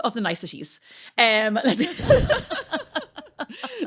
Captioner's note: laughing